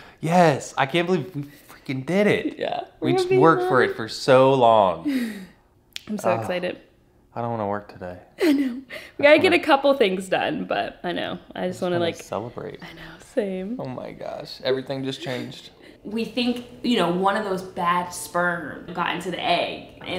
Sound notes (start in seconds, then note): 5.0 chuckles